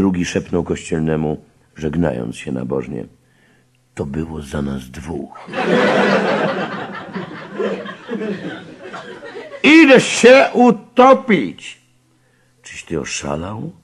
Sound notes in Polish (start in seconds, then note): 5.3 śmiech